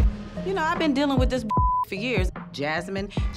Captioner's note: beep